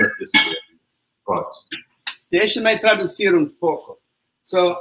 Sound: speaks portuguese

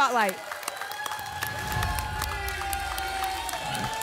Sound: applause and cheering; whoosh

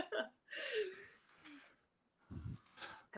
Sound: chuckles

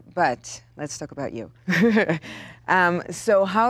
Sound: laughs

